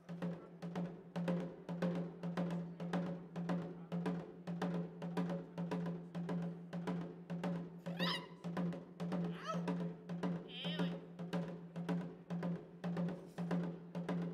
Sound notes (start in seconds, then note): 0.1 drum beating; 5.1 drum beating; 7.8 woman shouting; 9.0 shouting and drum beating